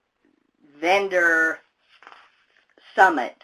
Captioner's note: papers rustle